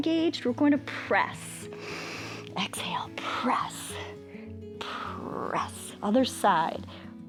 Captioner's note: inhales